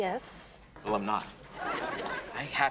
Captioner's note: audience laughs